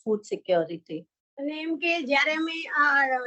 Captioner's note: non-english speech